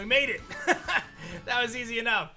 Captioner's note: laughs